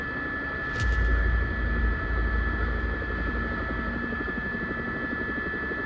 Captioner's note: helicopter